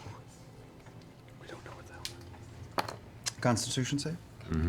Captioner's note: whispering